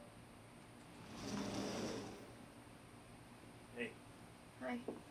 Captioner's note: door sliding